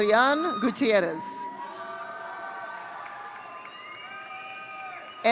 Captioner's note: audience cheering